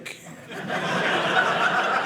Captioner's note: audience laughing